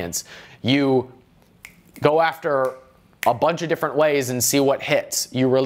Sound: snapping fingers

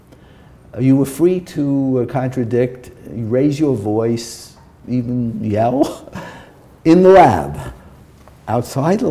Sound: chuckle

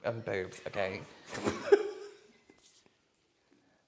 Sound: laughing

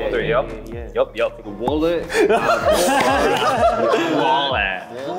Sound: all laugh

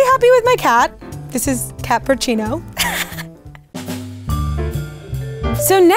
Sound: laughing

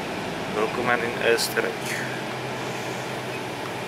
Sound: in German

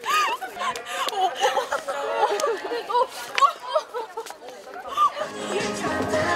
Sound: can't stop laughing

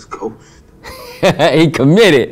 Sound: Larenz laughs

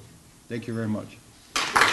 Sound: applause

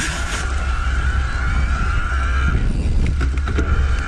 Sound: motor whirring

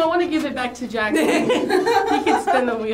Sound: laughs

